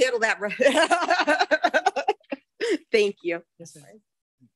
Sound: laughs

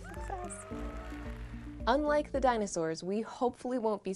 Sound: cheering

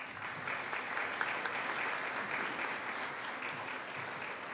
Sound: audience applauding

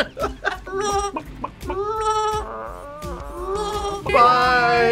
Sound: both laugh; clucks; meeps

